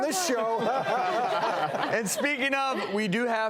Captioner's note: audience laughing